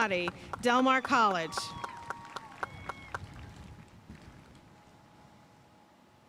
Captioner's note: audience cheering and applauding